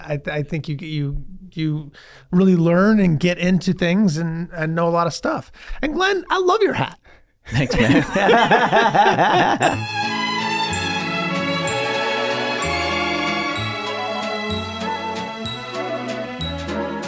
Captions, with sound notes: I think you really learn and get into things and know a lot of stuff. And Glen, I love your hat. - Thanks, man. (all laughing) (swinging big band music plays)